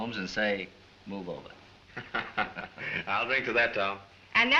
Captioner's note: chuckles